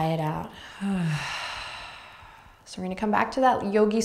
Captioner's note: exhaling breath